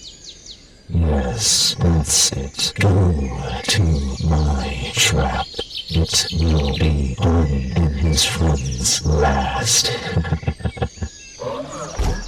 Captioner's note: laughs